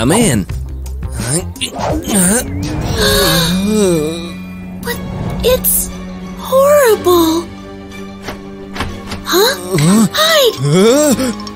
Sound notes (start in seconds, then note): 0.5 grunting; 0.5 horrified gasp